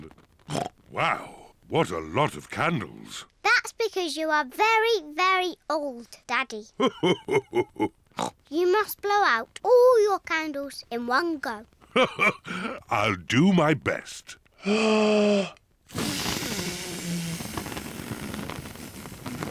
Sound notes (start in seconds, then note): 0.5 oinks; 7.1 laughs; 8.2 oinks; 11.8 laughs; 15.9 inhales deeply